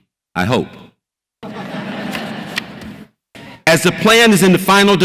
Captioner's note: audience laughs